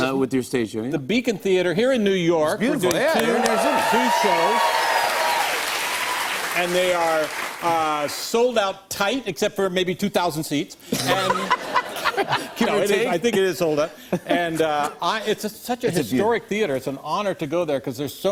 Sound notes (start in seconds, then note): 4.4 cheers and applause; 10.9 laughs